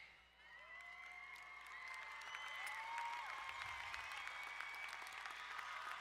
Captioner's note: crowd cheering and applauding